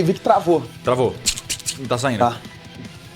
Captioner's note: click click